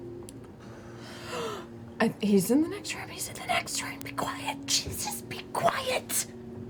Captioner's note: whispers